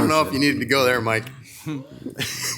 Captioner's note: laughs